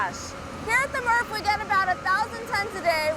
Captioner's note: none